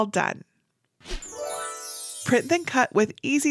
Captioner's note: graphics whooshing; graphics tinkling